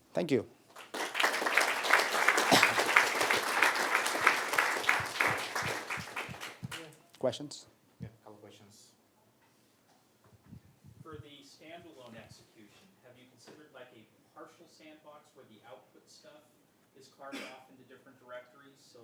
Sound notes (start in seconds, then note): 0.7 applause